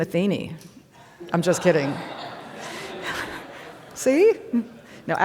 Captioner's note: audience laughing